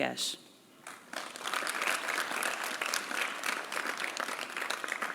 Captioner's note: applause